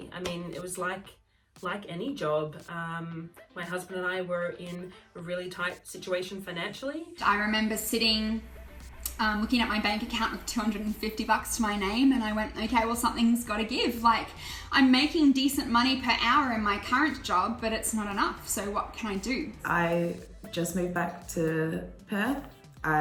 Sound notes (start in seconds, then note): none